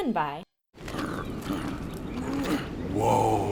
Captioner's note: grunting